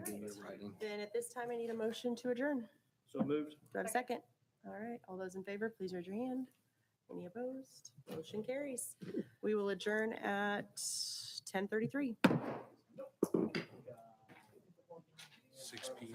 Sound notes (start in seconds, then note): 12.2 gavel bangs; 13.8 people chattering